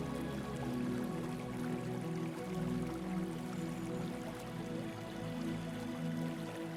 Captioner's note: water trickling